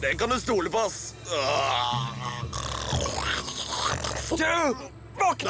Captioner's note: snoring